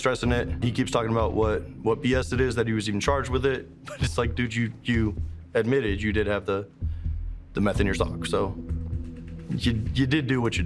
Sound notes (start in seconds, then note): 3.8 laughs